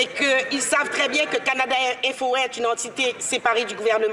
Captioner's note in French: voix de l'interprète